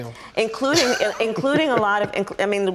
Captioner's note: laughs